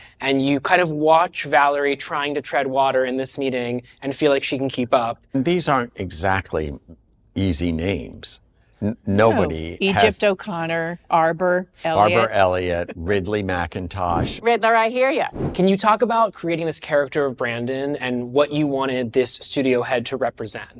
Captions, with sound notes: and you kind of watch Valerie trying to tread water in this meeting and feel like she can keep up. And these aren't exactly easy names. -Nobody has-- -No. Egypt O'Connor, -Arbor Elliott. (CHUCKLES) -Arbor Elliott, Ridley McIntosh. Riddler, I hear ya. Can you talk about creating this character of Brandon and what you wanted this studio head to represent?